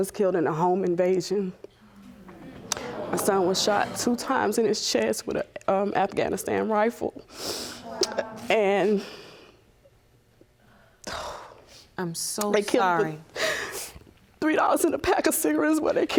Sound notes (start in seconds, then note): 7.5 sniffles; 11.1 sighs